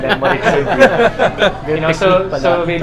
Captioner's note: laughs